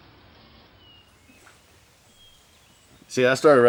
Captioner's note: birds chirping